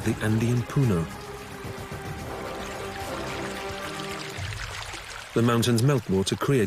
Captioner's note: water babbling